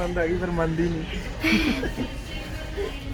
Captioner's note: laugh